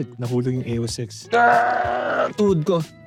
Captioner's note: moans in pain